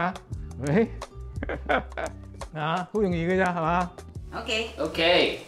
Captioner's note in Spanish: Risas